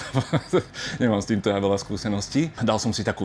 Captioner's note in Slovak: smiech